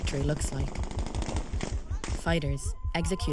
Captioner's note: rapid gunfire